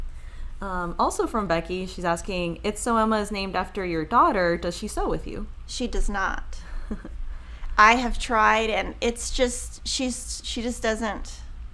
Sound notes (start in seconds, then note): 6.7 chuckles